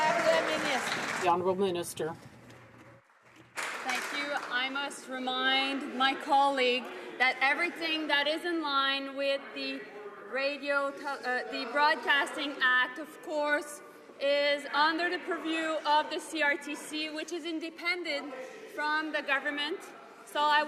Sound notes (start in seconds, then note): 3.2 some Applause